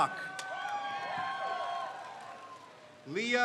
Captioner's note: crowd cheers